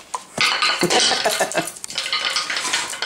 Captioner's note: laughing